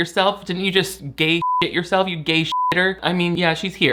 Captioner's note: beep